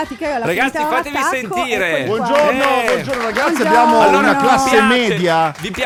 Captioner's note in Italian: applausi del pubblico in studio